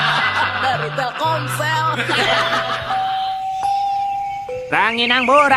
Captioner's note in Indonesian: tertawa